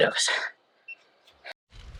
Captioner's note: wind